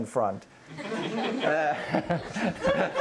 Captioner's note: audience laughter